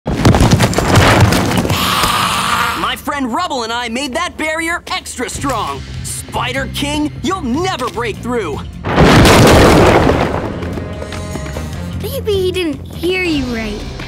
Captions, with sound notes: [hissing] My friend Rubble and I made that barrier extra strong. Spider King, you'll never break through! Maybe he didn't hear you right.